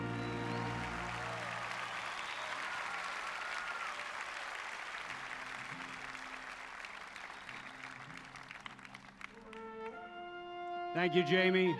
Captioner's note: applause